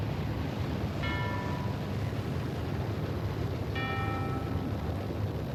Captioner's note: dong; ding